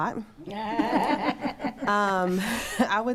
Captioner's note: attendees laughing